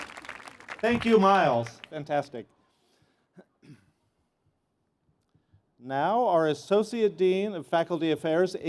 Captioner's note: cheers and Applause